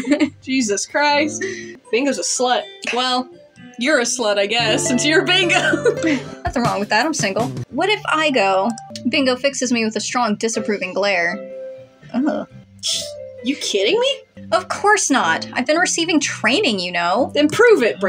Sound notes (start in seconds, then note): 0.0 laughing; 0.0 chuckle; 3.1 snicker; 5.6 giggle; 5.6 chuckle